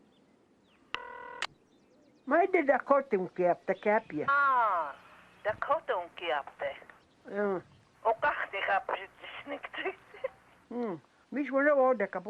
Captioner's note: women speaking Dakota